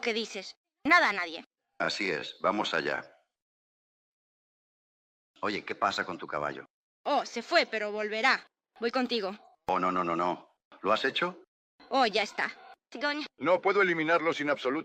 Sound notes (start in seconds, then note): 10.0 in spanish; 14.0 hoppy laughs